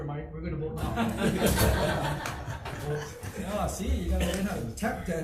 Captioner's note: audience laughs